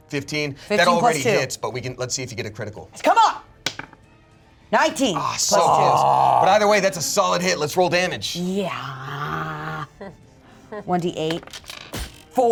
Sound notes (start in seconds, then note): 3.6 dice rolls; 11.3 dice rolling